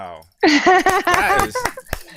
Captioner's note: laughs